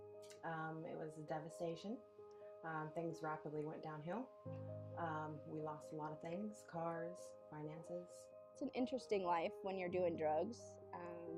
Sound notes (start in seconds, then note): none